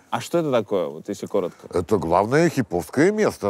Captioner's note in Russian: none